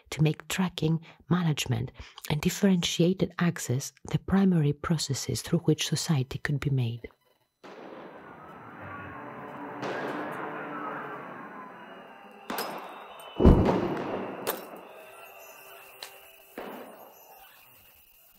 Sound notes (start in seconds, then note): 8.0 static; 9.2 gun shots; 9.2 sirens; 14.4 broken glass